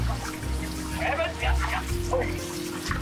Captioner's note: speaking Dutch